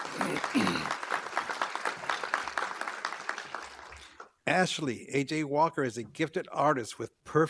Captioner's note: applause